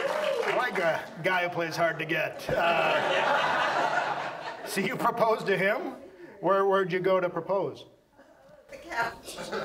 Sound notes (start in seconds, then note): 2.5 audience laughs